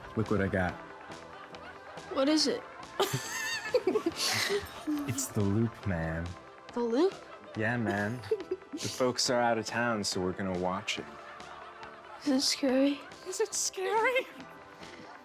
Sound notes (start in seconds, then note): 3.1 laughs